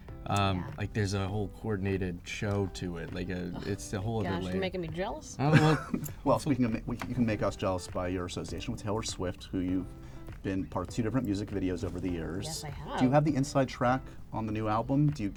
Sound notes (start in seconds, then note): 5.4 laughs